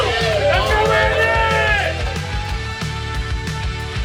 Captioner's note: crowd cheering; upbeat music